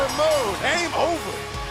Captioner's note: bell